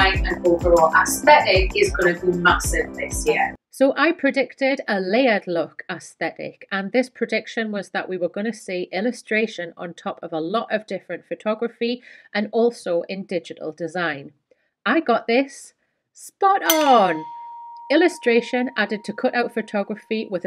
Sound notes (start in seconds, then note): 16.7 dinging